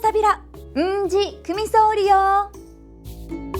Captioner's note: in Okinawan